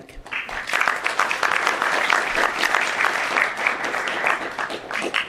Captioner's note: applause